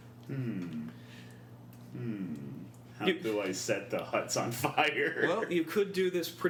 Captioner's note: giggles